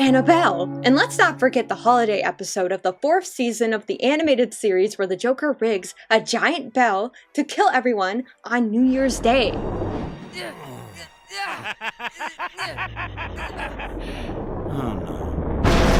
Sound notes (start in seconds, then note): 13.3 laughs